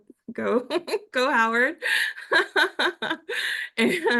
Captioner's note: laugh